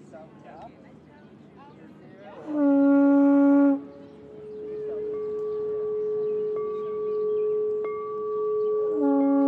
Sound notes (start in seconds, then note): 2.4 horn blowing; 5.1 glass ringing